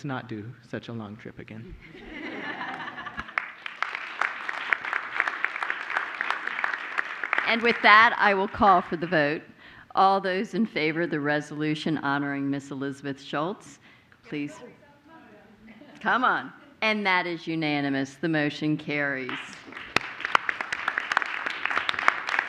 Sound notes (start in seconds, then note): 6.5 applause